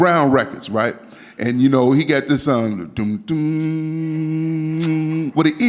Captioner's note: humming